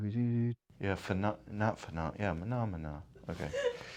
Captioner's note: laughter